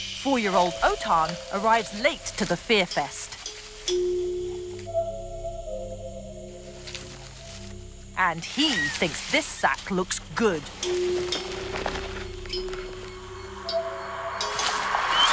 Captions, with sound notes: Four year old Oton arrives late to the fear fest. (branches rustling) And he thinks this sack looks good. (sack rustling)